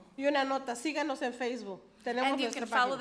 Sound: speaks foreign language

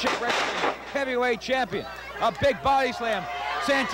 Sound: crowd yelling

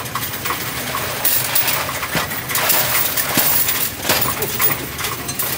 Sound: coins rattling

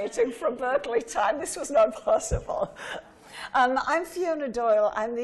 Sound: laughing

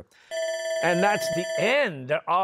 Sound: bell ringing

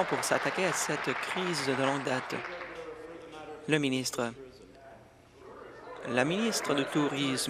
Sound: applause

